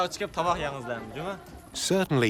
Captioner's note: speaking Uyghur